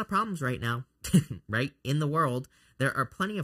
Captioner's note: chuckles